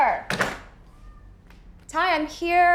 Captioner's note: door thuds shut